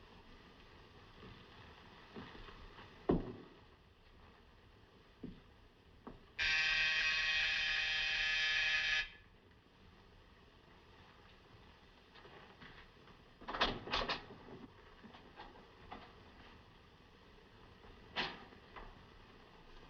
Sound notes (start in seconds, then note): 6.4 doorbell Buzzes; 11.4 door Opens